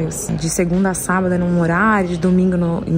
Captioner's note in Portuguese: none